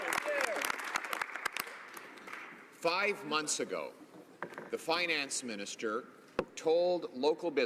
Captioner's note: some Applause